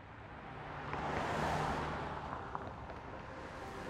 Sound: cars driving

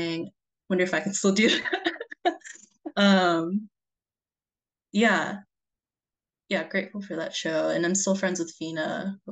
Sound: laughs

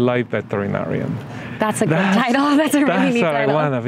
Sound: laughs

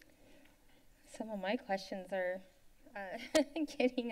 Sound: laughs

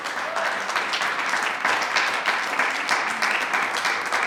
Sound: attendees clapping; attendee cheers

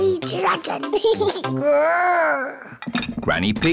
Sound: giggles, growls

